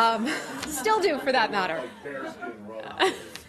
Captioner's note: laughter